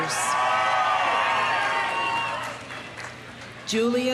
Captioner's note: audience cheering; audience applauding